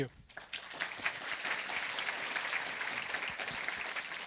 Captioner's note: applause